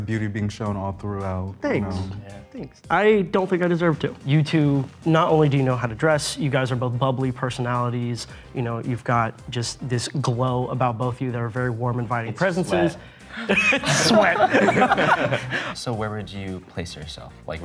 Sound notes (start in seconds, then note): 13.3 laughing